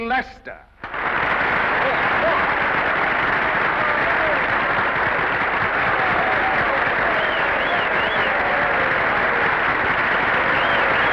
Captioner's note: audience applauds & cheers